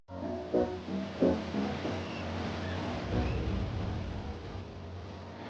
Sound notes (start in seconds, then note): 0.2 lively music; 1.7 seabirds crying